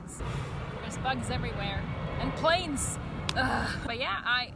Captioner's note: plane noise